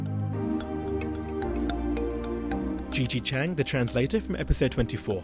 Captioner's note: voiceover